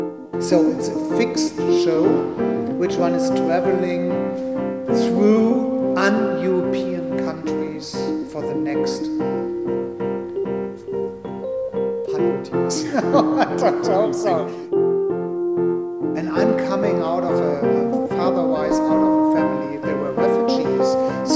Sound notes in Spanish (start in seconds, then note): 12.7 risas